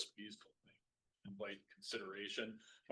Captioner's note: audio cuts out